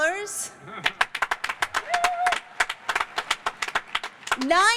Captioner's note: cheers and applause